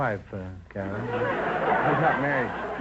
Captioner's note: audience laughter